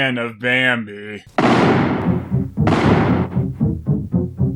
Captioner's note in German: Schüsse